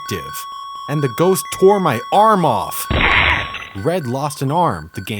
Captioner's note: digitized scream